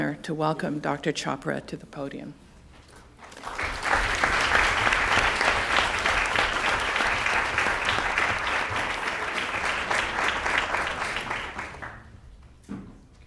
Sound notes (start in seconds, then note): 2.9 applause